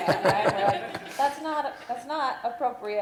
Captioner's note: laughter